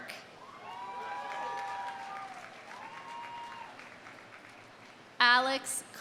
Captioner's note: audience cheering; audience applauding